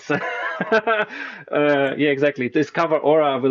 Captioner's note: laughs